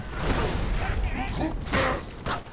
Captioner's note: speaking sangheli